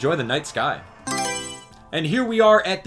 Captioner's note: Mario Selection Sound